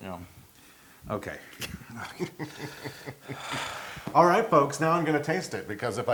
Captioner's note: laugh